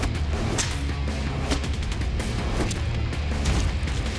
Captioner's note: whacking